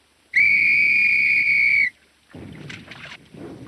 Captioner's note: whistle blowing